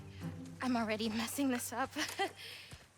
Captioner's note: laugh